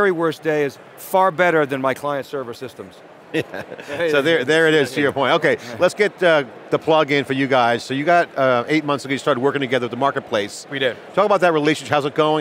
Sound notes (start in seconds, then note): 3.3 laughs